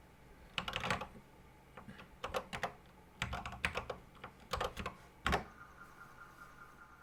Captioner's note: typing on a C64 keyboard